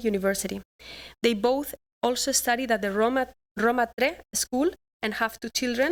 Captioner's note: non-english speech